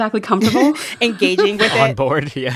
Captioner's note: laughter